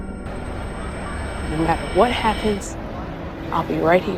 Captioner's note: voiceover